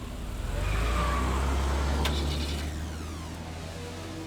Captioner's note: tires screech